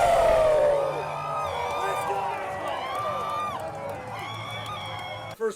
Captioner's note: cheering